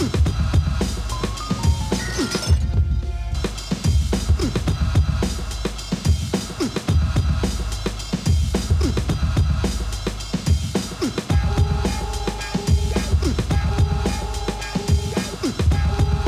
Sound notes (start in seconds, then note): 1.9 glass clattering